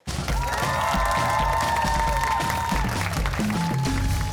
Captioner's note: cheers and applause